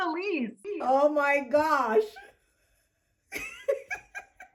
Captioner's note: laughs